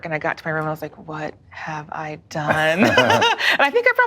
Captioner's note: laughing